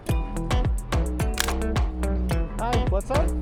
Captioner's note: camera clicks